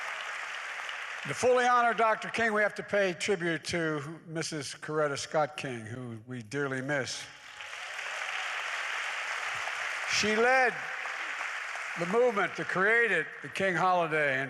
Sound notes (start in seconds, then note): 0.0 applause; 7.3 applause